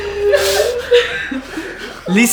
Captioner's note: laughter